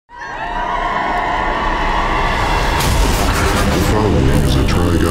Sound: crowd cheering; deep, Robotic Voice

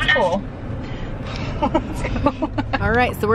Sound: giggling

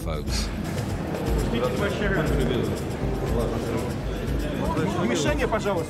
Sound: speaking in foreign language

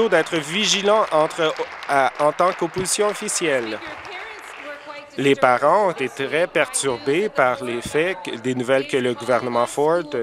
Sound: applause

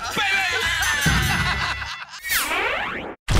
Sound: laughter

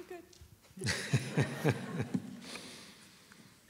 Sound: laughter

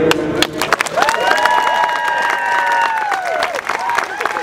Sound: clapping and cheering

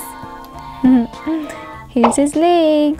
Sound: giggles

